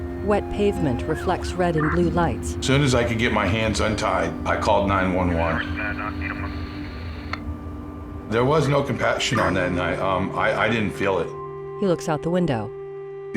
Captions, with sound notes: (distant siren) As soon as I could get my hands untied I called 9-1-1. (dispatch radio chatter) There was no compassion on that night. I didn't feel it.